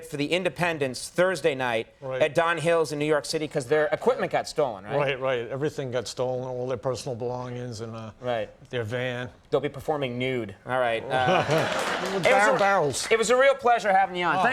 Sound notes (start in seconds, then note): 11.0 laughing